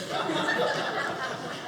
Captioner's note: audience laughing